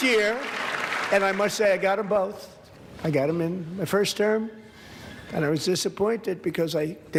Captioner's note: applause